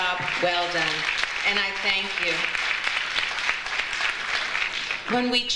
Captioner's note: audience applauds